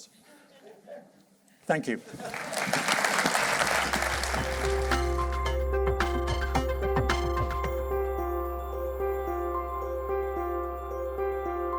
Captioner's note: applause